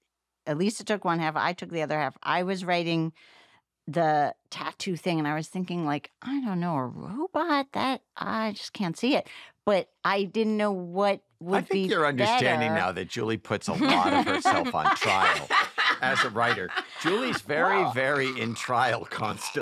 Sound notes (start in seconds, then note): 13.5 laughter